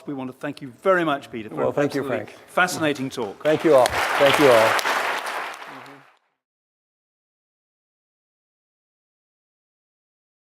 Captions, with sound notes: We want to thank you very much, Peter. Fascinating talk. - Thank you all! (applause)